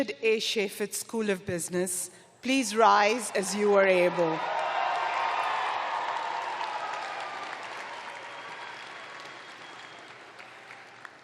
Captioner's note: cheering